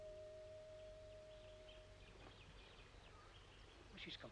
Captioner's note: birds chirping